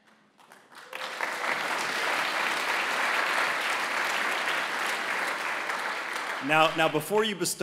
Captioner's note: applause